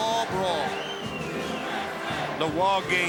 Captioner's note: crowd chanting "USA!"